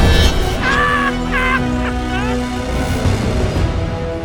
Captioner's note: sinister laugh